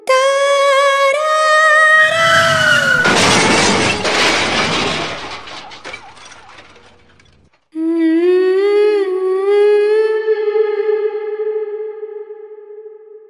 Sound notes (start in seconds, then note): 2.0 crash; 2.0 brake squealing; 7.8 𝅘𝅥𝅮 Humming 𝅘𝅥𝅮